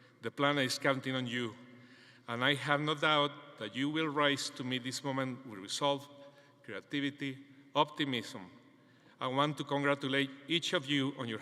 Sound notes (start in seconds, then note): none